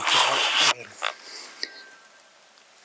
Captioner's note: elk bugling